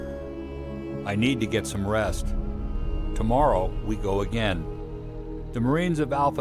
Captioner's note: voiceover